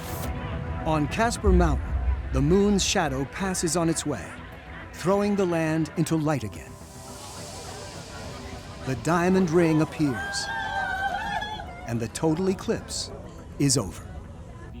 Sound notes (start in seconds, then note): 11.3 cheering